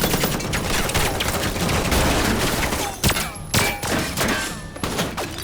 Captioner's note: gunshots